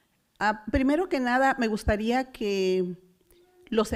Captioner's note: foreign language